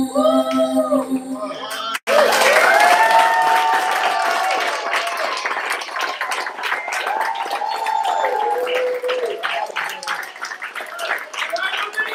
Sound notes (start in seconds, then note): 1.8 applause